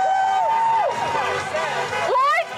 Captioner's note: group cheering; horn honking